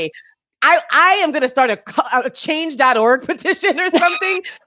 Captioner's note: laughs; laughing